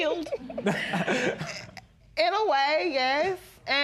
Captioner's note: laughs